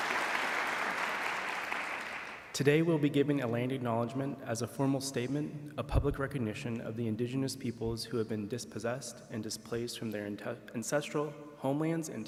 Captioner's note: applause